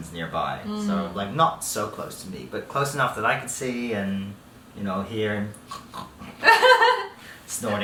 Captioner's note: snort